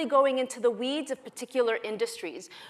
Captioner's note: none